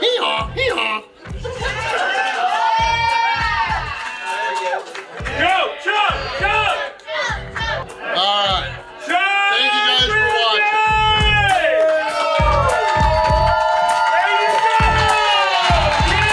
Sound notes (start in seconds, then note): 2.0 audience screaming; 11.7 audience cheering